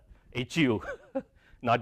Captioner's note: laugh